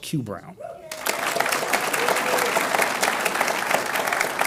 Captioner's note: audience applauds